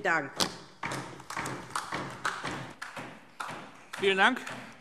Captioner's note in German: Beifall DIE LINKE